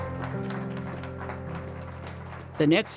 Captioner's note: attendees applaud; gentle music